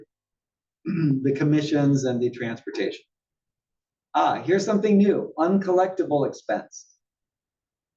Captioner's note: cough